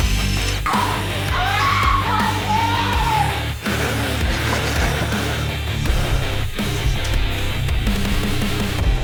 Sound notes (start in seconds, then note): 0.1 uptempo rock music; 0.7 Madam Maze screaming; 0.9 creatures snarling; 6.6 uptempo rock music